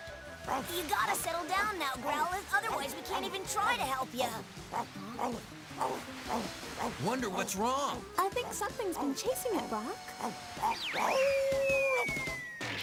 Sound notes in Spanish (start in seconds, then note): 5.5 inquieto; 10.1 aullidos